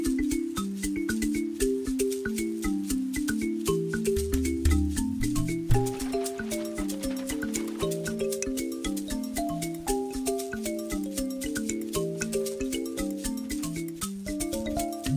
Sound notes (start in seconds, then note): 5.6 soft galloping footsteps; 8.7 soft music